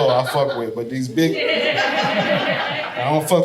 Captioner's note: audience laughing